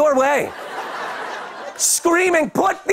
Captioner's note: laughter